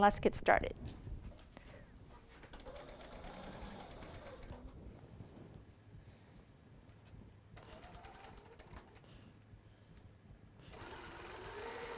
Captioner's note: sewing